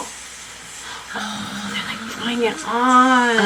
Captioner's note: both gasp